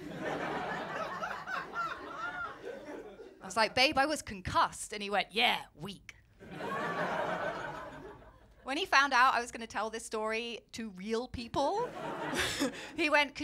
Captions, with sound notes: [LAUGHTER] I was like, ‘Babe, I was concussed.' And he went, ‘Yeah, weak.’ [LAUGHTER] When he found out I was going to tell this story to real people he went,